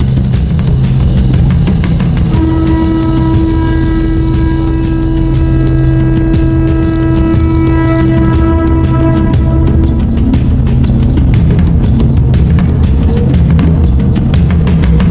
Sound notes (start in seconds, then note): 4.2 when one screamed, the echo was repeated 7 times